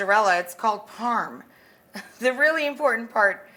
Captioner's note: chuckles